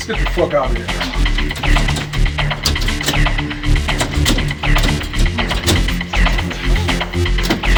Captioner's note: suspenseful music; door rattling